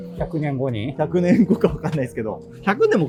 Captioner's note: laughing